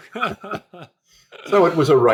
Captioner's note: chuckle